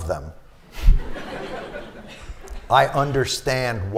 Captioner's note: laughter